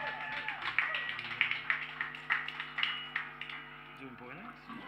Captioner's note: applause